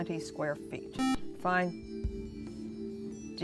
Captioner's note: buzzer